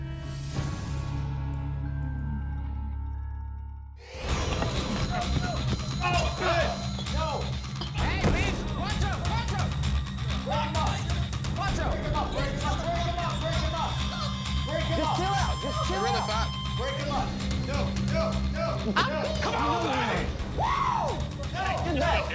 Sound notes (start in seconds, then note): 0.1 tense music; 5.1 fighting, shouting